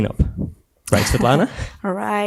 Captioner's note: laughs